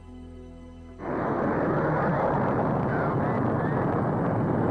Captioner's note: rocket whooshing